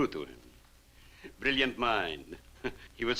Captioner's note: chuckles